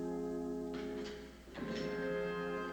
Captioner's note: door Opening